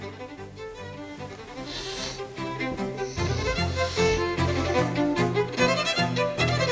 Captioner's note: snoring